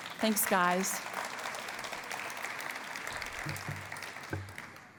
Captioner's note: applause